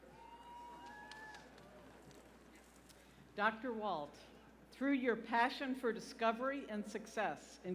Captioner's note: cheers and applause